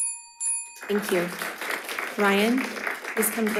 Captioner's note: audience applauding